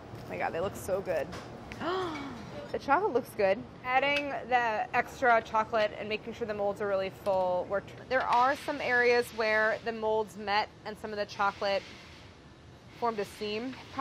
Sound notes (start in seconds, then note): 1.8 sighs